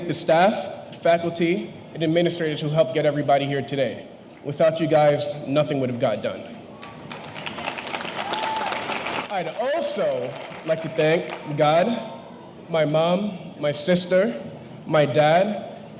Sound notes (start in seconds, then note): 6.8 audience applauding; 6.8 audience cheering